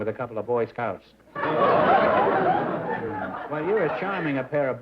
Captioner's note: laughter